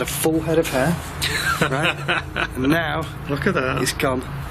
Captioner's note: laughing